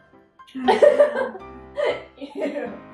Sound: laughing

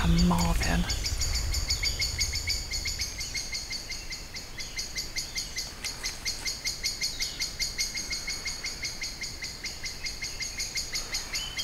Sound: birds chirping

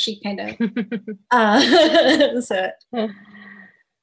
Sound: laughs

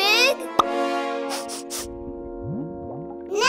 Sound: sniffing

